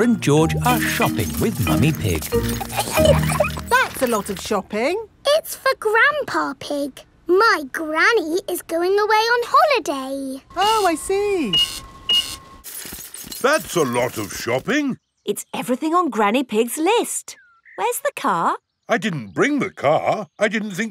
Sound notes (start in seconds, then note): 2.2 laughing; 10.5 cash register beeping